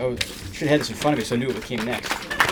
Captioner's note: applause